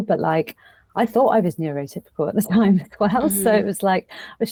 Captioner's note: chuckles